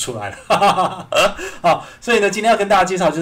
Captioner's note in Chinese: 笑聲